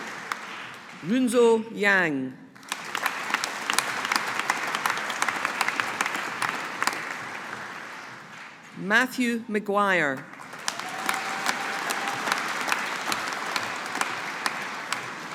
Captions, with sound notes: Runze Yang. (AUDIENCE APPLAUDING) Matthew McGuire. (AUDIENCE APPLAUDING)